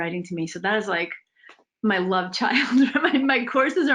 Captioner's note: laughs